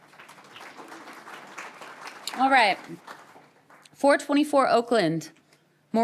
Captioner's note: applause